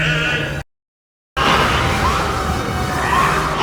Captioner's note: snake hissing